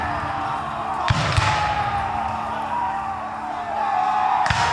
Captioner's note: guns fire